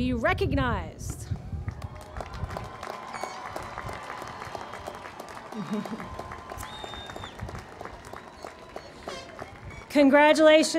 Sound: applause

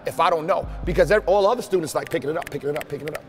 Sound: snaps

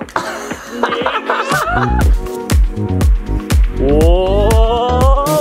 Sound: laughs

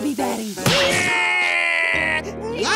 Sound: crying

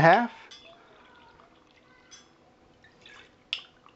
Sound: pouring

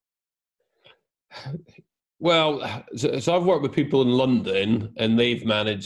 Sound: chuckles

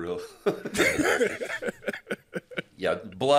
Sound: laughing quietly

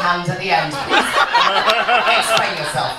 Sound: audience laughs

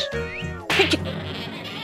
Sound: slap

